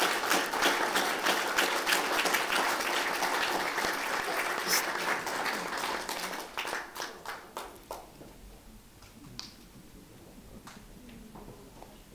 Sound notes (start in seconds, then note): 2.2 applause